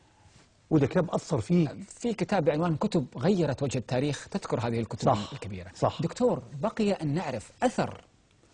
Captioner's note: in Arabic